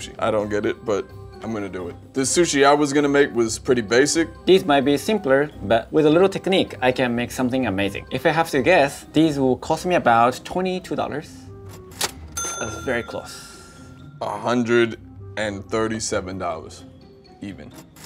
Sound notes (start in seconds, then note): 12.0 cash register dings; 17.8 cash register dings